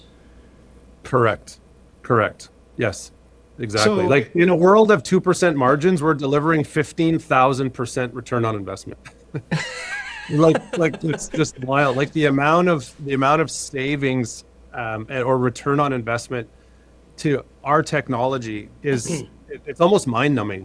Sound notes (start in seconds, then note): 9.4 laughing